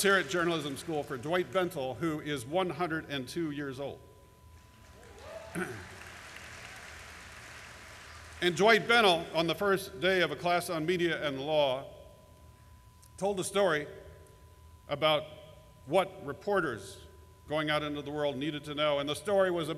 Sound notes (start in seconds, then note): 4.6 applause